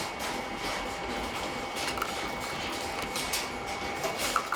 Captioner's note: machine whirring